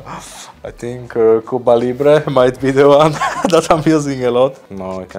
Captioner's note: laughing